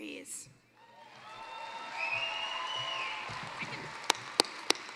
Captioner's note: applause